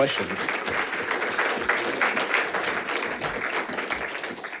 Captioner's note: audience applauding